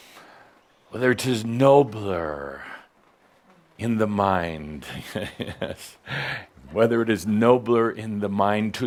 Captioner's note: chuckling